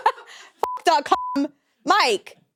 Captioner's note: chuckles; beeps